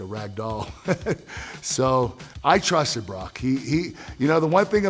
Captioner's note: laugh